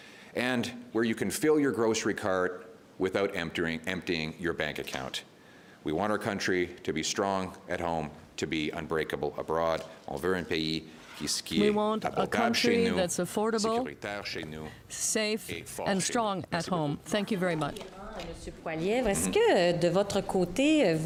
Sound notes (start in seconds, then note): 15.0 speaking French